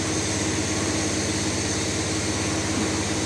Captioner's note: spraying